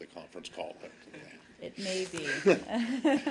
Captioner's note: laughter